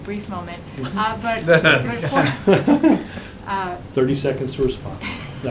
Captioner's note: laughter